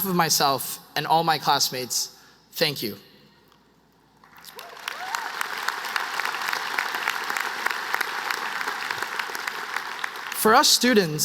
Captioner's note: applause